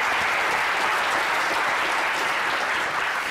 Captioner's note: applause